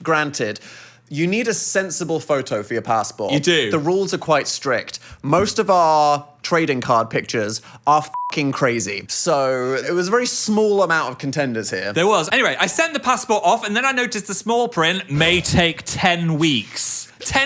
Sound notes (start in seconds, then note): 8.1 beep